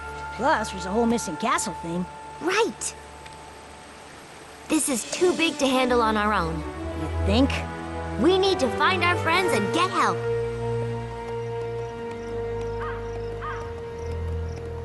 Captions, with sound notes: Plus there's the whole missing castle thing. Right. This is too big to handle on our own. You think? We need to find our friends and get help. [crow cawing]